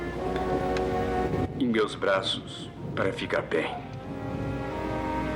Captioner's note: thunder Rumbling